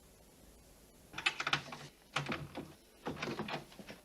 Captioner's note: lock turns